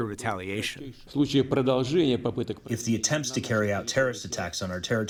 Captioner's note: through translator